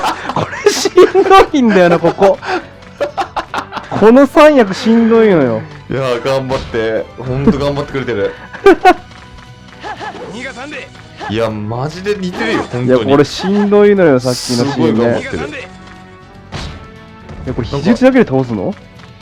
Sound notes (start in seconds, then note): 0.0 both laughs; 2.9 laughs; 9.8 laughs